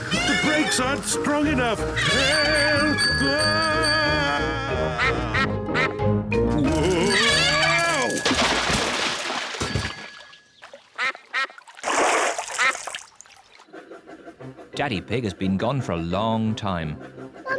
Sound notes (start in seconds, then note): 2.0 bell rings; 3.5 yelling; 4.8 ducks quack; 6.7 bell rings; 10.9 ducks quack